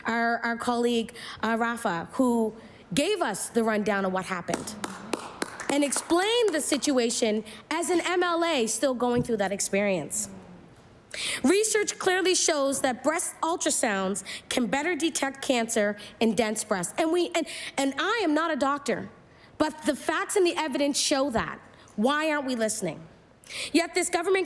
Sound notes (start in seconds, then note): 7.4 applause